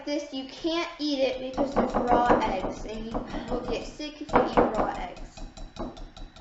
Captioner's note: tapping whisk